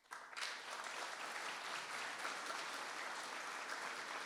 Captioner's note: audience applauding